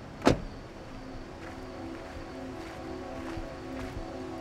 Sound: door closes

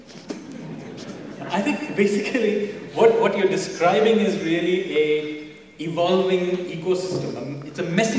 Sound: laughter; laughs

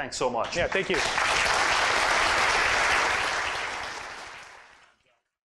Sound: applause

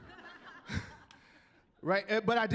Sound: chuckling

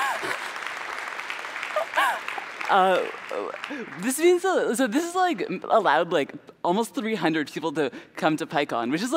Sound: applause

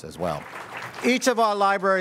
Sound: audience applauds

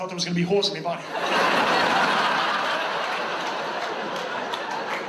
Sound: audience laughs

